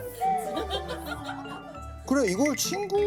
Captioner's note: haha